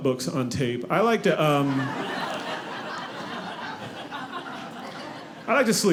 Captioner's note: audience laughing